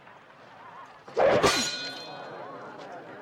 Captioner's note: sword thumps, breaks rope